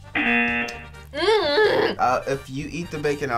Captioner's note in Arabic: طنين الجرس; تتأوه